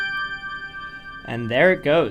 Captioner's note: chime